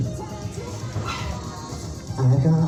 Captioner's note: squeak